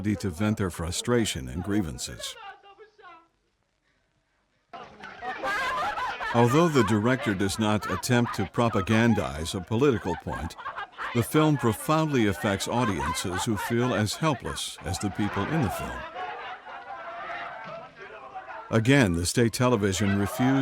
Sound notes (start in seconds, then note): 2.8 woman speaking foreign language; 5.2 people shouting; 16.2 people shouting